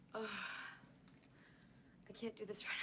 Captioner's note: sighs